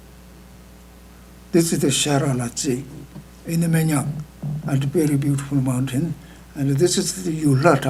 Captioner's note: speaking tibetan